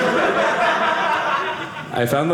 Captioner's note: audience laughing